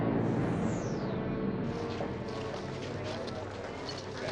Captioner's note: chattering Continues